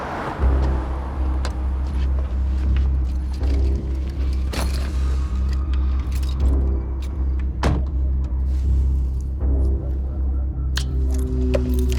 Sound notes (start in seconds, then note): 0.6 tense music; 7.6 car door shutting closed